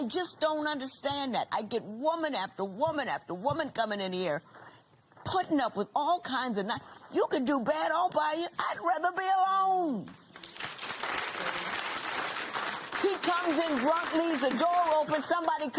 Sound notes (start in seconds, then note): 10.3 applause